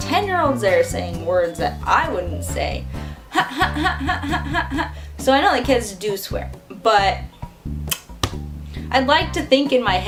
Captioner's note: huh huh huh huh